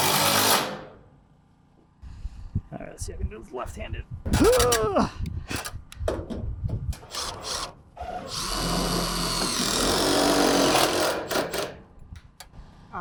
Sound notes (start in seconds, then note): 0.0 drill running; 8.0 drill running